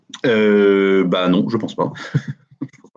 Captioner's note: soft laugh